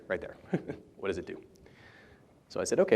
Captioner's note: laughter